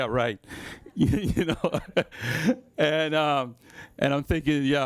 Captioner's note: laughs